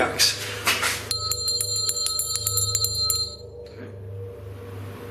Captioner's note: bell rings